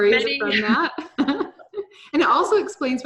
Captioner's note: chuckles